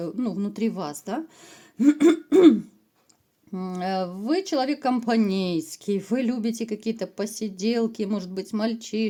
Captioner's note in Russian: откашливается